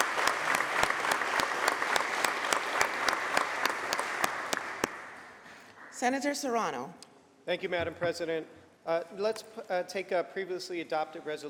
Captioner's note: applause